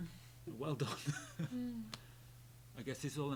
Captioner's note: laughs